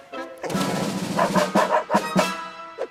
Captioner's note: barking